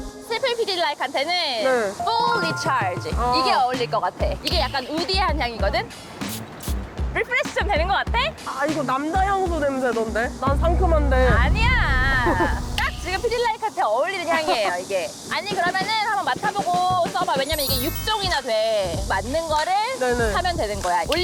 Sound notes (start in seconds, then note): 6.0 sound of spraying perfume on you; 10.4 serious music